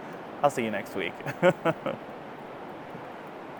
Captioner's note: laughs